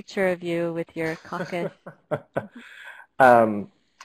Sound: laughter

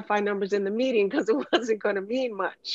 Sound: laughs

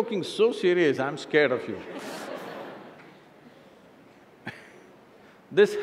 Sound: laughter

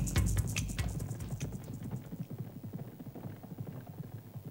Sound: hooves clopping

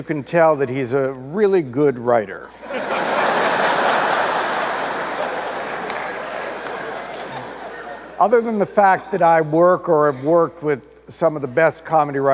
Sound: audience laughter

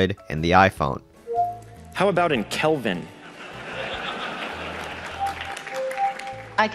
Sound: audience laughs

